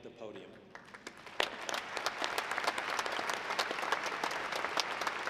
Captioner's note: audience clapping